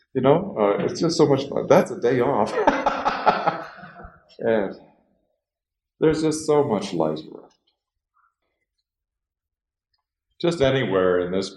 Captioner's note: laughs